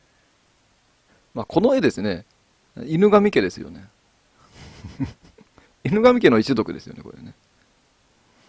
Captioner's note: laughs